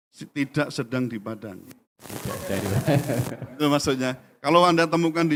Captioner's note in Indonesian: tertawa